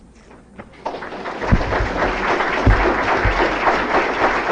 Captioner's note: applause